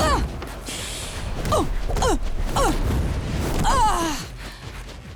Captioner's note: grunting